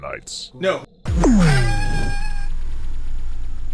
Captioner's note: scream